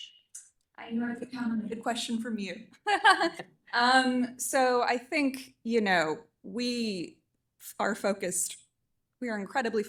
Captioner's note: laughter